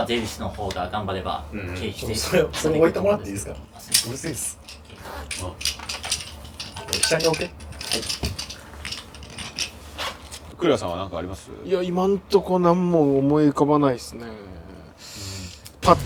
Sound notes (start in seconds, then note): 3.8 wooden clappers